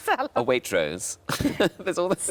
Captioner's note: laughs